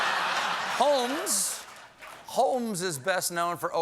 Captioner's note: laughter